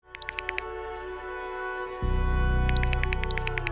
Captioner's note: typing